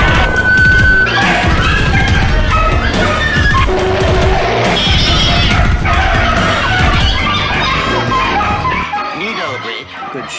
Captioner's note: dog & Cats Bark & Meow